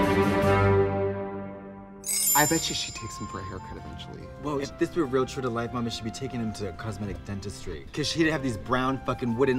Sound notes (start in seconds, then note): 2.0 soft chiming